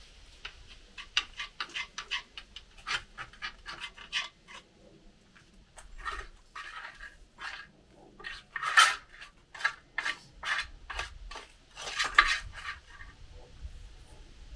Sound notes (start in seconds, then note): 1.4 metal scraping